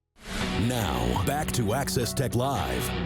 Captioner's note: screen whooshing